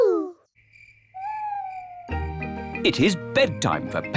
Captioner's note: crickets chirping